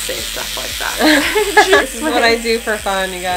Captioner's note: laughter